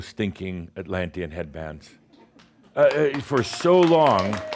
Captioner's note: some applause and someone says “Yay”